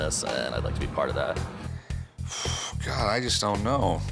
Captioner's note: inhales